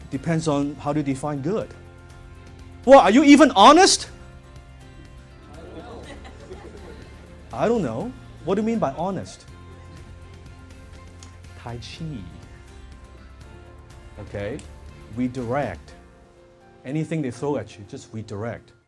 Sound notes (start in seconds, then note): 6.5 people murmuring and chuckling